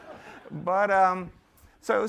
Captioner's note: laughter